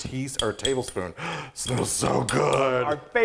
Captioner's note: gasps